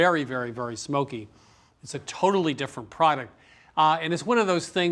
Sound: inhales

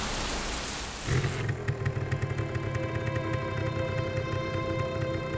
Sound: motorcycle engine starts

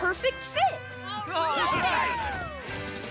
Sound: cheering

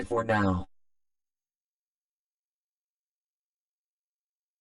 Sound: silence

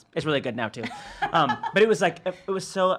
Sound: laughing

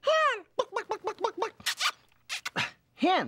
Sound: kissing; clucking

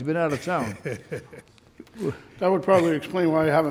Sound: laughs

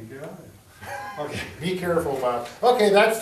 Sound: both men chuckle quietly

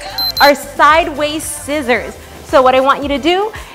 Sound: beeps

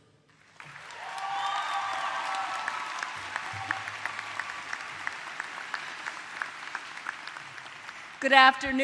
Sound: applause

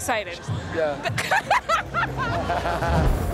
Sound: laughs

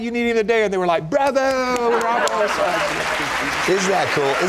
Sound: applause; applause continues

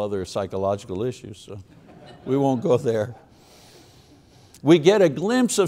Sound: audience laughs

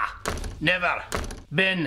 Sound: slam

